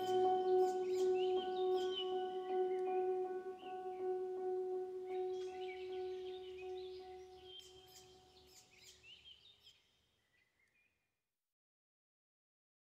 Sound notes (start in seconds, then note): 0.0 instrumental fades out; 0.0 birds chirping